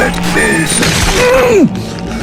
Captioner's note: skin ripping; Riley screams